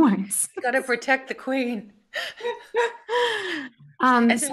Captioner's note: laughs